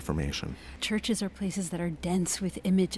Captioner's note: voiceover